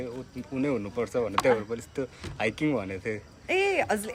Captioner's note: walking